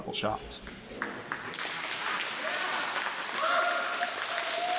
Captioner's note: applause in background